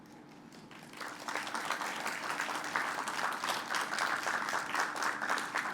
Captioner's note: applause